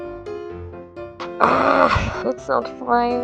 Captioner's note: almost growling